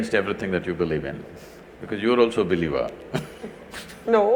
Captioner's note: laughs